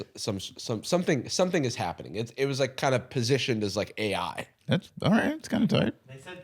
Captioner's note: none